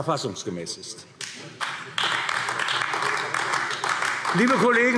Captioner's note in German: Beifall AfD